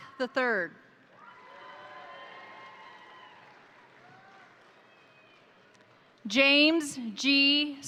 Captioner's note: crowd applauding; crowd cheering